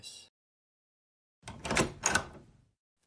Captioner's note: door opens